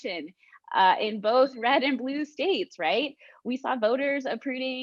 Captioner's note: laughs